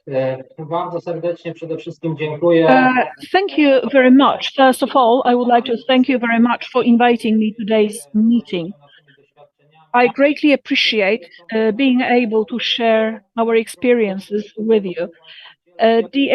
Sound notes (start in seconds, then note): 3.3 speaking foreign language